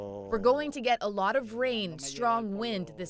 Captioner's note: speaking spanish